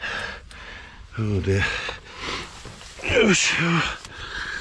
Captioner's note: groans